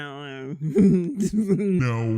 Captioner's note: chuckles